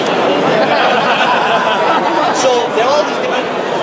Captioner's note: crowd laughs